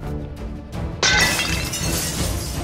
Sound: glass breaks

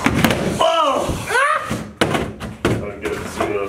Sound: yelling

